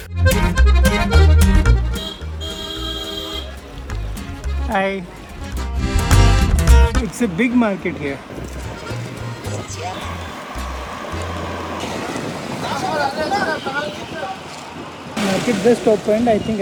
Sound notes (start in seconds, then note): 1.8 car horn